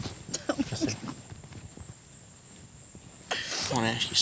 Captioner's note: sniffles